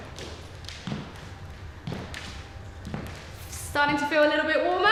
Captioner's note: footsteps echo